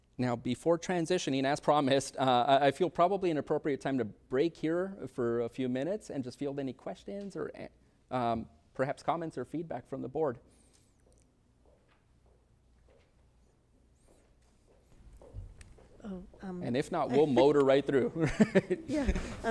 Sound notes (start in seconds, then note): 11.6 heels clicking; 18.2 laughs